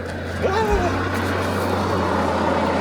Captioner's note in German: schreiendes Geräusch